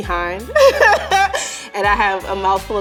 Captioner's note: laughing